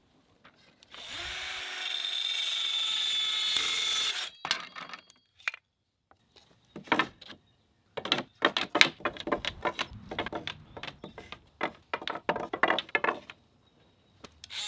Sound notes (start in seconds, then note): 7.9 wood stacking